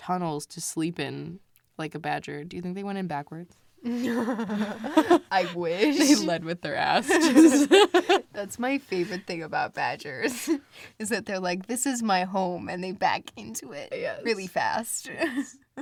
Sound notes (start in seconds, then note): 3.8 both laugh; 11.0 laughs